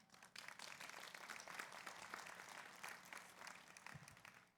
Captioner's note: audience applauds